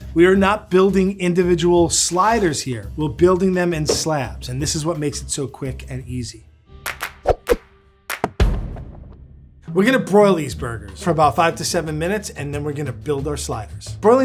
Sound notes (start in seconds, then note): 6.7 upbeat music; 7.0 logo whooshes